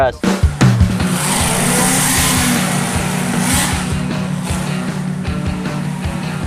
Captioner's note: upbeat rock music; engine revving